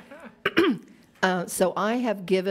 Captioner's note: laughing